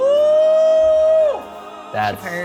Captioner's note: gasping